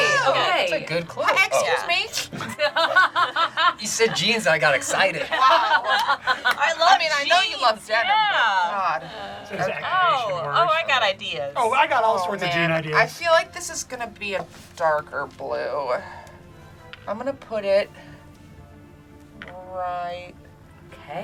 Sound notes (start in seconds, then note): 2.5 group laughs; 5.8 group laughs